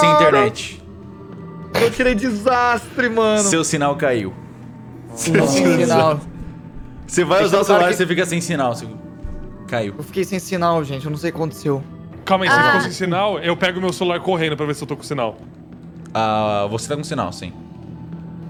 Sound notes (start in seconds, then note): 5.1 laughing